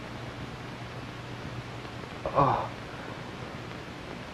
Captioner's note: moaning